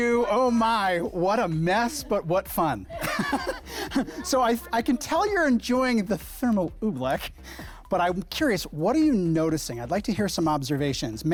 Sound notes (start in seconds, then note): 2.8 laughs